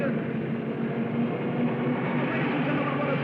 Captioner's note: cars revving